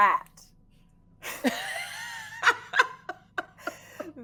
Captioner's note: all laughing